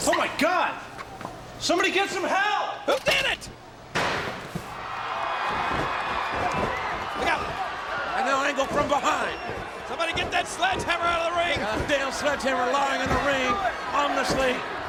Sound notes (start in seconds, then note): 4.8 audience cheering; 5.7 foot thudding